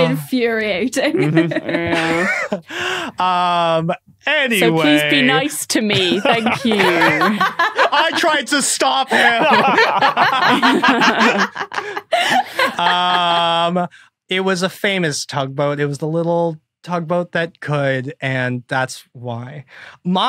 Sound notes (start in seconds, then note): 1.2 scattered laughter; 5.8 laughs; 8.8 group laughing